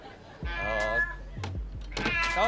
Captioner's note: all laugh; cat meows; cat meows in panic